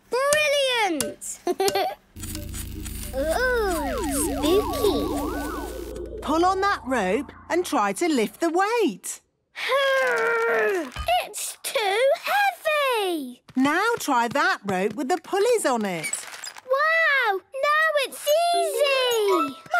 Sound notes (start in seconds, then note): 2.2 pulsing